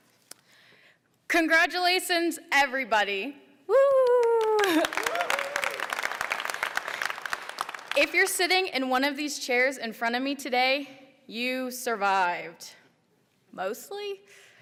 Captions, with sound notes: Congratulations, everybody. (applause) If you're sitting in one of these chairs in front of me today you survived mostly.